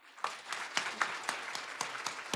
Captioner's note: applause